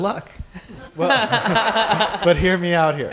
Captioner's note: laughter